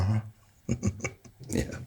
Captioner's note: Anderson chuckling